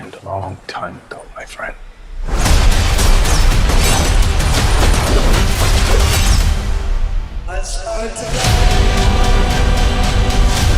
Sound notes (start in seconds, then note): 2.4 gun shots